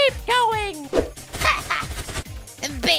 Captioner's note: running